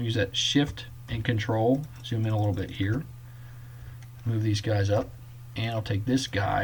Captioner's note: clicking